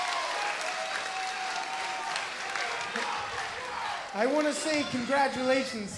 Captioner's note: crowd cheering